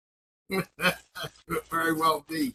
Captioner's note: laughs